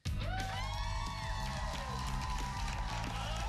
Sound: cheers and applause

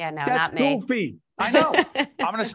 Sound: laughing

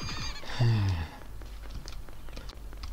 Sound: sigh

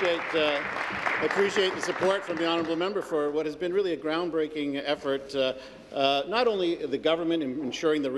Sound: applause

